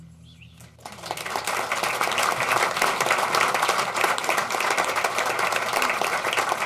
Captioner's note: applause